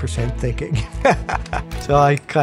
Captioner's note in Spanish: risas